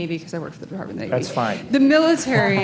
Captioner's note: laughter